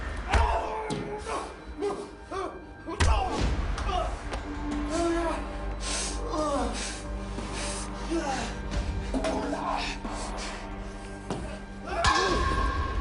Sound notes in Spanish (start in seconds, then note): 0.3 Quejido; 6.2 Quejidos